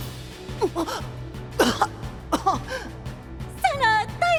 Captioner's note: cough cough